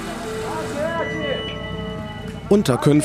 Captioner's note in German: Stimmengewirr